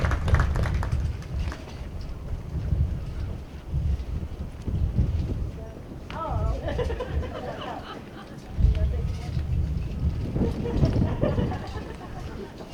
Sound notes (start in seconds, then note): 0.0 applause; 6.6 laughter